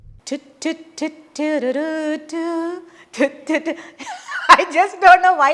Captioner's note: laughs